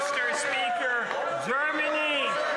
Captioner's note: some Applause; speaking French